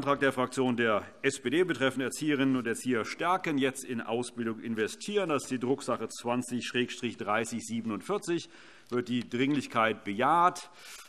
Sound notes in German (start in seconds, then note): none